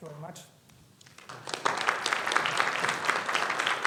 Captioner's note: audience applauding